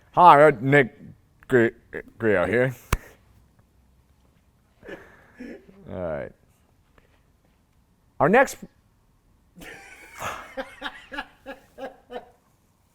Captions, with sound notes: Hi, I'm Nick Griot out here. Our next, (laughing)